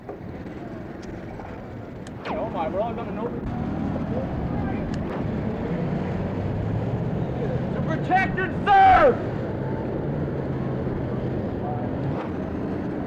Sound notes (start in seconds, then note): 0.0 street noise; 7.7 protester yelling; 9.4 street noise